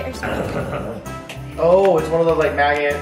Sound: guttural muttering

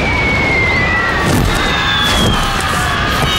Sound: screaming

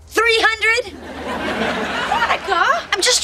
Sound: audience laughing

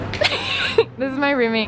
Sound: laughs

